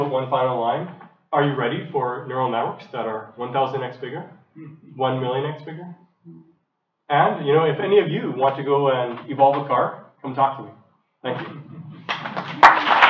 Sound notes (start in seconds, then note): 12.0 applause